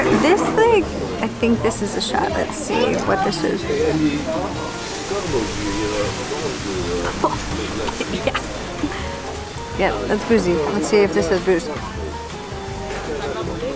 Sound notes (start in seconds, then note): 4.6 people chattering